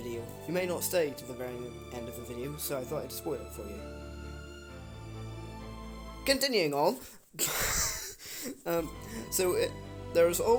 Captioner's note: unhinged laughter